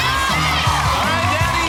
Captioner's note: cheers and applause; laughs